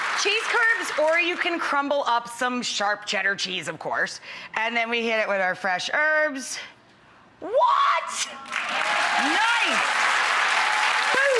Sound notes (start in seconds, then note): 8.4 audience applauding